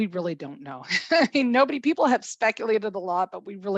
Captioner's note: laughter